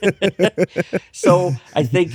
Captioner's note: both laughing